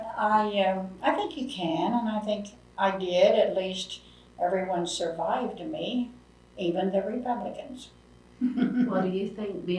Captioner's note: laughs